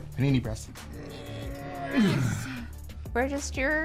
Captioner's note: grunting